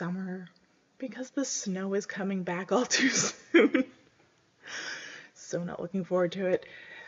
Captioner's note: laughs